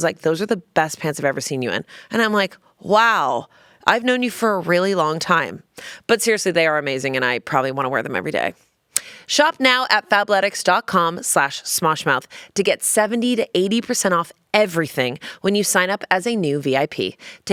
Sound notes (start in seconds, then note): none